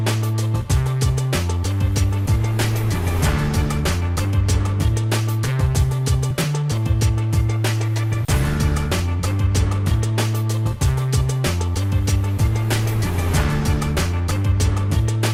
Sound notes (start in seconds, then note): none